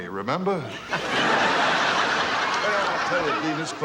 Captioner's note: laughing